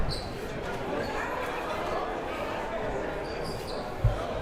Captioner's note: crowd murmuring